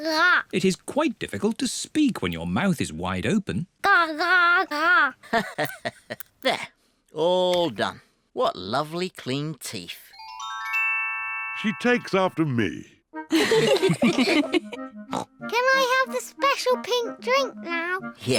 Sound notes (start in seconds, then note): 13.3 all laugh; 15.1 snorts